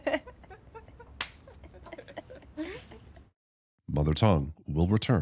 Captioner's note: laughs